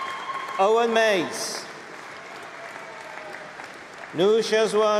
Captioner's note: applause